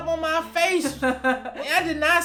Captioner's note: laughs